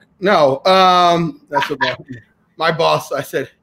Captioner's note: laughing